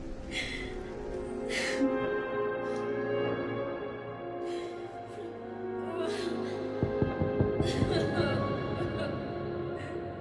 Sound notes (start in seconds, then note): 2.1 distant crying echoes; 2.1 warped music; 6.6 distant door knock echoes